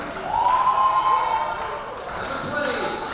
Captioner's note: crowd cheering